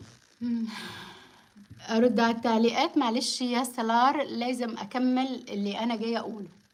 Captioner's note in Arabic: تنهّد